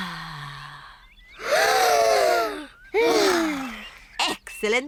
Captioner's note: breathes deeply; all breathe deeply